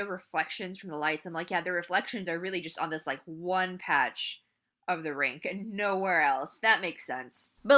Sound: sarcastically

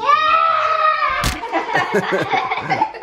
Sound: shouting; laughing

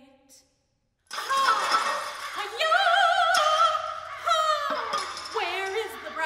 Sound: breaking glass, crows

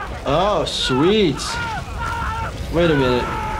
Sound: shouting; screaming

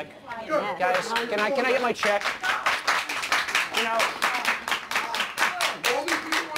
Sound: cheering and clapping

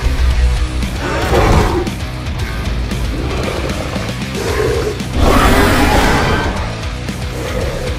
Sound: Scorpius Rex attack sounds

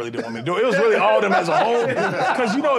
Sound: laughter

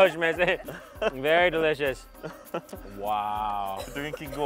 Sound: speaks Persian

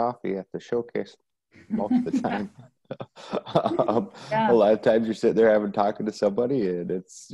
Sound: laughs

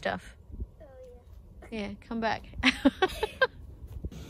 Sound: chuckles; laughs

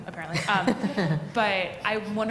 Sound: laughter

